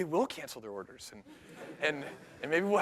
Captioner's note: laughter